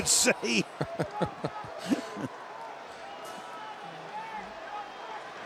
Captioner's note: laughter